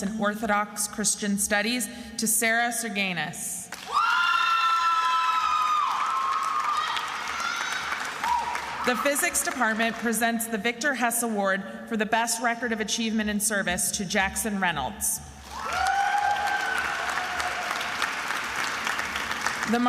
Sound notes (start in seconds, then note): 3.7 attendees screaming and applauding; 15.4 attendees applauding and cheering